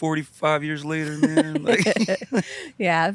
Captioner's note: both laughing